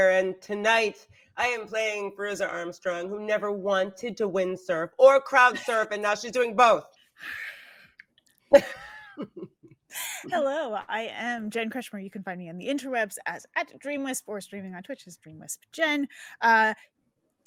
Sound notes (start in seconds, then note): 8.5 chuckles